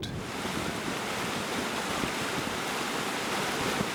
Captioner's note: water sloshes